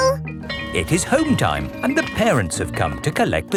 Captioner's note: bell tolling